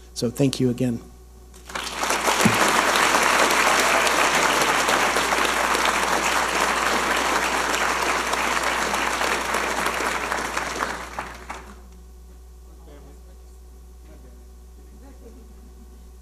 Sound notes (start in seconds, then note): 1.9 audience applauding